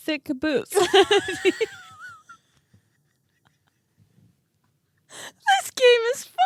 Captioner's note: laughing